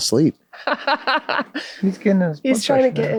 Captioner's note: laughs